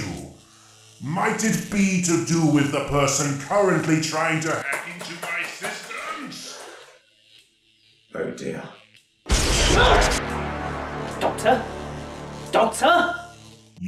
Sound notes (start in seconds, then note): 9.3 laptop explodes; 9.6 screaming in pain